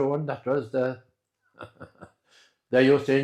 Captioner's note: laugh